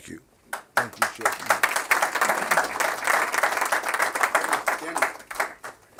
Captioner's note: applause